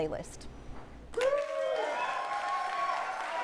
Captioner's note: applause